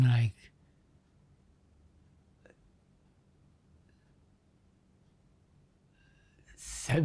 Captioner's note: pauses 4 seconds